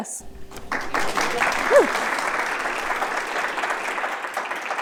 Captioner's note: audience applauding